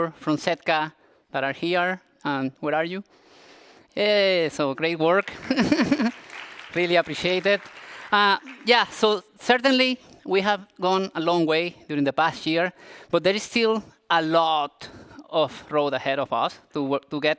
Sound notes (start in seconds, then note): 5.1 applause